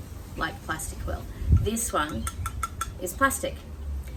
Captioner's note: fingernails ding on plastic